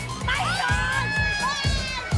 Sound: yells; laughs; upbeat music

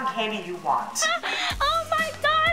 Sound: gasps

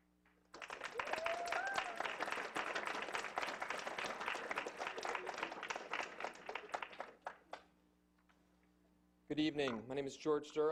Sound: clapping and cheering

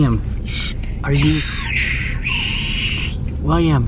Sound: whispering

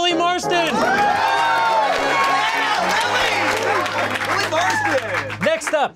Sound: cheering, clapping

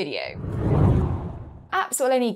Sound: air swooshing

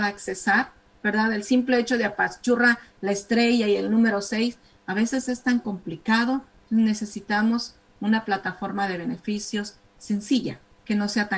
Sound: speaking spanish

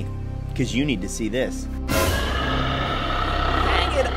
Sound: croaking

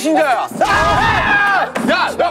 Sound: arrrrrrrgh!

